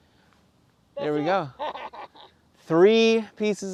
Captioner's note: laughs